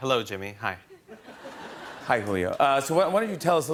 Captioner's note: laughter